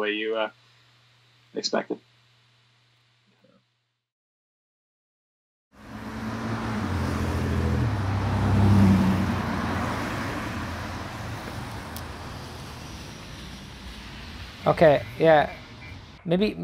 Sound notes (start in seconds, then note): 7.3 cars passing; 14.7 bass playing